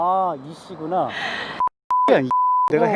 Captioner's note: beep